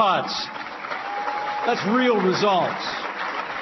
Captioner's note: applause